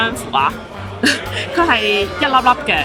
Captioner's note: laughs